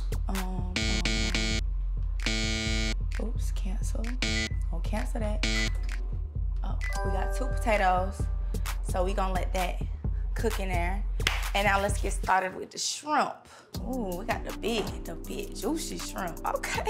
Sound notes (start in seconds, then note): 0.8 buzzer rings; 5.4 buzzer rings